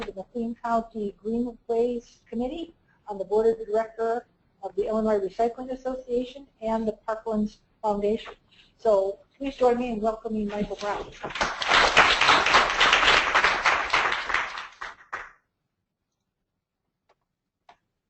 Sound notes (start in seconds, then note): 11.2 audience applauds